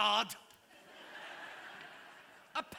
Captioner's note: laughter